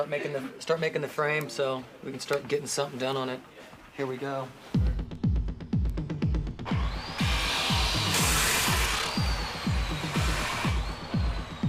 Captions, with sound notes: and start making the frame so we can start getting something done on it. Here we go. (upbeat music) (tool sounds)